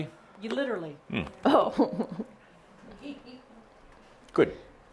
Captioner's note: chuckling